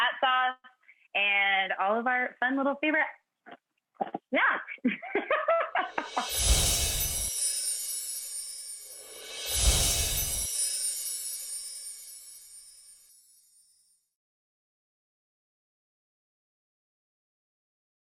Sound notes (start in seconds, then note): 4.8 laughing